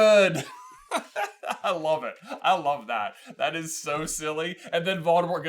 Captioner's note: laughter